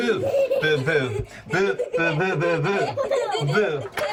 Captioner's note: laughter